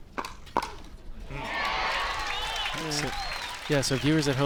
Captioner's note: crowd cheers